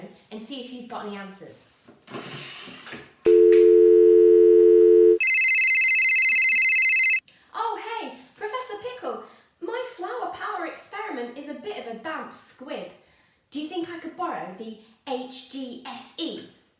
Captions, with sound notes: and see if he's got any answers. [Dial tone.] [Phone ringing.] Oh hey, Professor Pickle! My Flower Power experiment is a bit of a damp squib Do you think I can borrow the H-G-S-E?